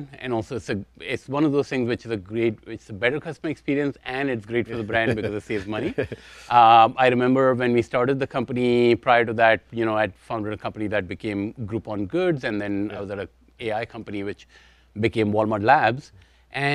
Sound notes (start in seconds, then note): 4.7 chuckles